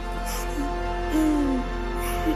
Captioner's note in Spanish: Sollozos